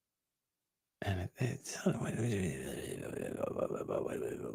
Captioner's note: mutters